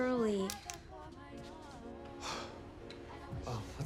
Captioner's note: exhales